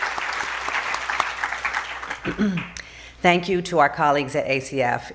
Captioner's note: applause